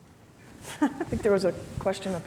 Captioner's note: laughs